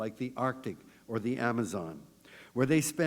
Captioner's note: none